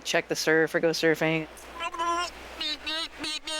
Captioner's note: funny cartoon sounds